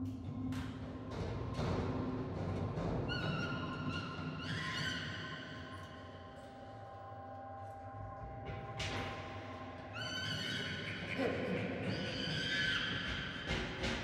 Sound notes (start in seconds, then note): 0.6 chimpanzee chattering